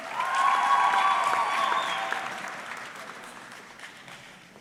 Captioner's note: audience clapping